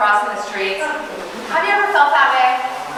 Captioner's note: audience chuckling